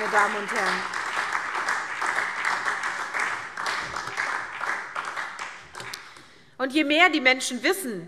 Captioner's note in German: Beifall SPD